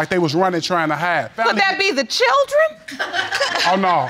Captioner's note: audience laugh